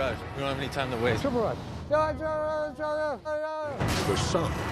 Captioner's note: shouting gibberish